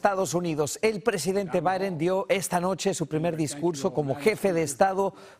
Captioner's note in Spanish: HABLA EN INGLéS